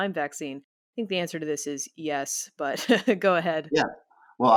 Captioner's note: chuckles